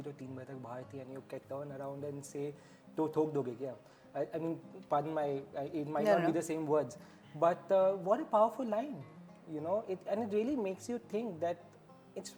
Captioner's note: in hindi